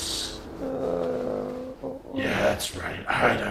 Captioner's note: groans